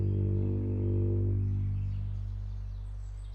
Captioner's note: ominous music; birds chirping